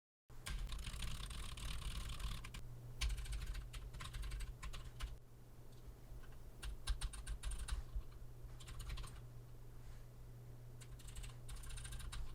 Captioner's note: typing sounds